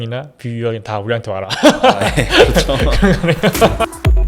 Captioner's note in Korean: 웃음